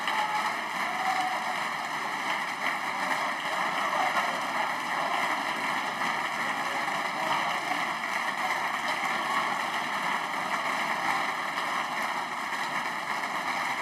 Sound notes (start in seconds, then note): 2.9 applause